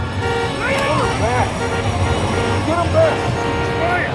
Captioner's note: intense music; Tector shouts